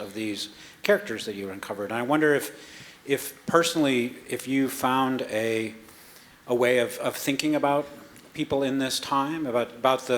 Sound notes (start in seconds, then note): none